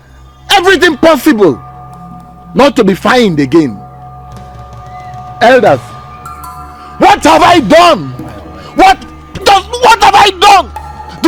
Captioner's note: screaming